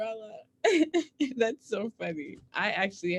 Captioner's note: laughs